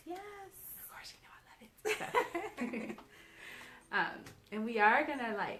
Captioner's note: both laughing